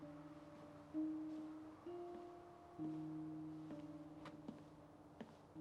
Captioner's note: footsteps approach